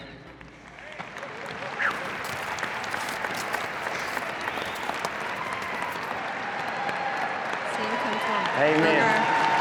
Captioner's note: crowd claps, cheers